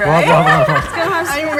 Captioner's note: everybody laughing